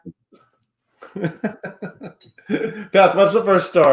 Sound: chuckles

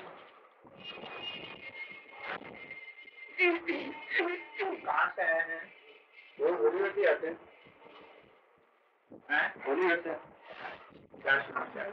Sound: Hindi

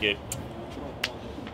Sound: kiss sound

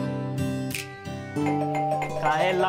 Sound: doorbell rings

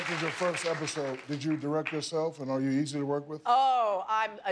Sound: cheers and applause

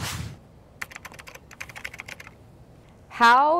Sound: air whooshing; keyboard clicking

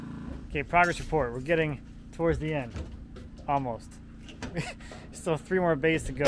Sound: laughs

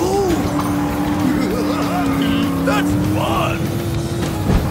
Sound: laughing

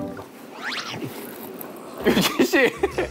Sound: slurping

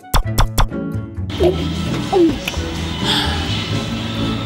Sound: gulping

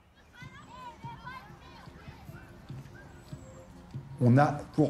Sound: distant childrens'' voices

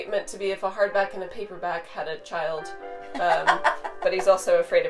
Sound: laughs

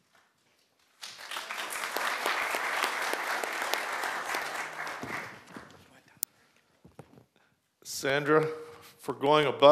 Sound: applause

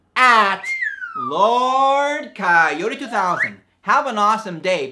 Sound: slide whistle

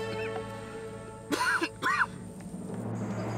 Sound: Öksürme sesi

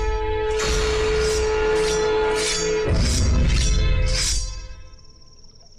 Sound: knife sharpening

